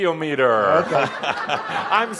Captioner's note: laughter